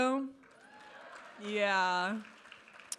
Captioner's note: audience applauding and cheering